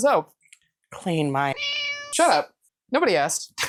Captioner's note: meow